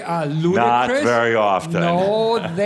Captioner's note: Adamus chuckles